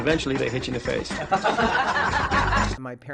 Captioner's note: laughing